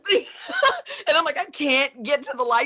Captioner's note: laughing; chuckling